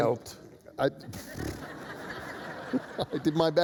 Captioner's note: laughter